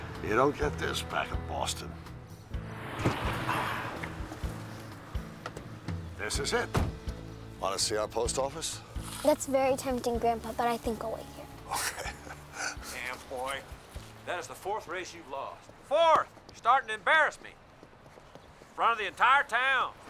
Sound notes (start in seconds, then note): 11.6 chuckling